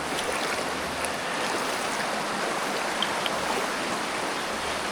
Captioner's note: water splashing